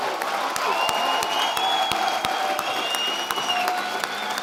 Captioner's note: audience applauding